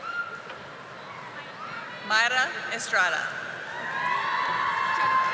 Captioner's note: audience applauding